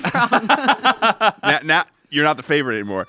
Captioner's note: everyone laughs